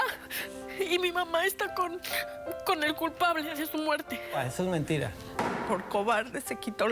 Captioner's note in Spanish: Solloza